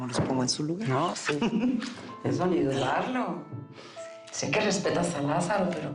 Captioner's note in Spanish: Risas